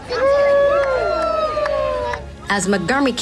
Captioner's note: cheering